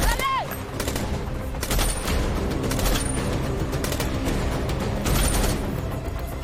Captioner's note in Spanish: Disparos